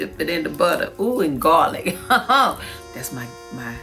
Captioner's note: laughs